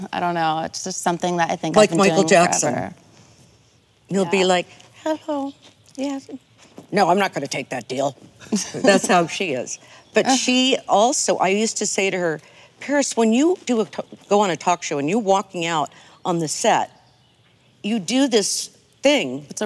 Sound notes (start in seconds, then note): 8.4 laughing